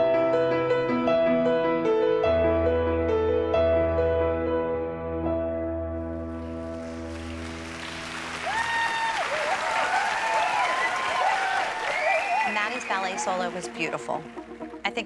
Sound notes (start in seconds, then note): 6.5 applause; 8.9 cheering